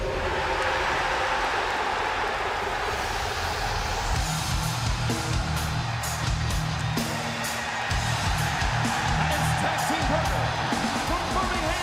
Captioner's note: crowd cheering